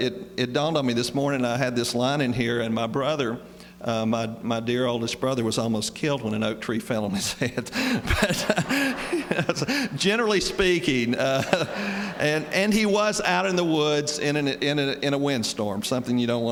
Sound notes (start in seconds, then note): 7.1 laughs; 11.2 laughter